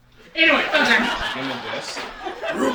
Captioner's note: laughter